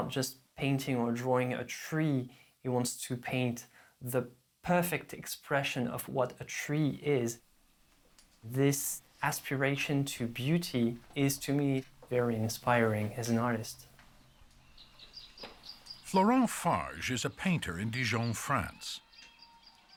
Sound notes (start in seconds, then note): 14.6 birds chirping